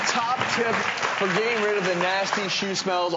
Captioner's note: audience clapping